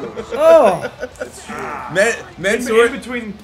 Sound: laugh

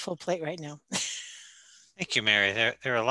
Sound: chuckling

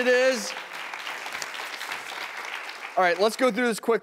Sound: applauding

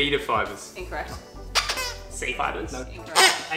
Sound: squeaks

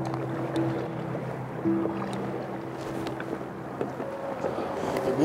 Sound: water gently splashing; melancholy light classical music continuing

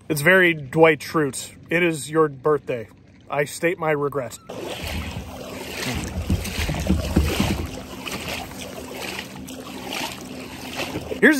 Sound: water splashing; struggling

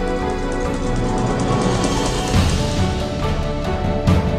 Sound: airplane motor

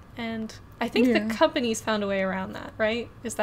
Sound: none

